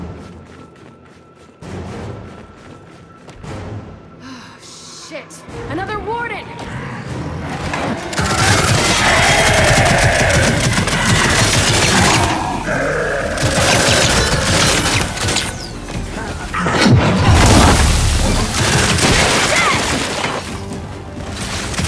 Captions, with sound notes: Oh shit, another warden! (gunfire) (screams) - Jack!